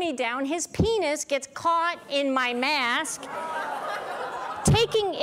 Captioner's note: audience laughs with disgust